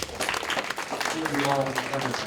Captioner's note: applause